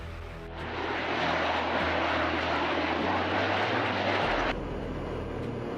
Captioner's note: jet engines roar